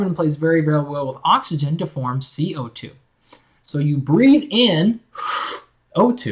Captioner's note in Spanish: ufff